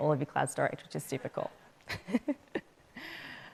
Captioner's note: chuckles